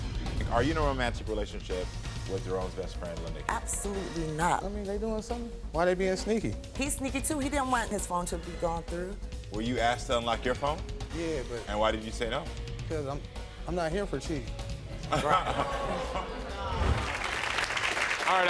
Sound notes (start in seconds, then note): 15.1 Karamo chuckles; 16.6 audience clapping